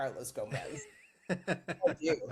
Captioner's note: laughing